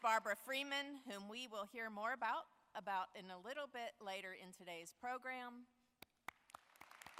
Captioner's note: applause